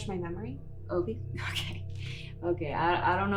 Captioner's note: laughs